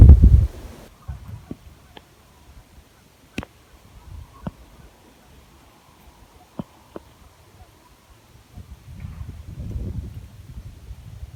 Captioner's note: light wind